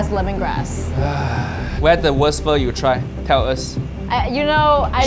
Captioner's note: sighs